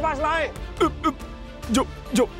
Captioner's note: chokes